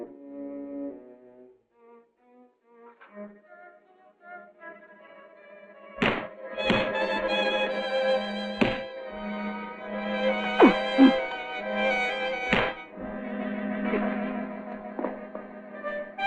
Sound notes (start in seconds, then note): 1.8 ominous music; 5.9 punches thudding; 10.6 man grunting